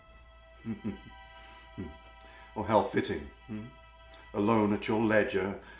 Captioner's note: laughing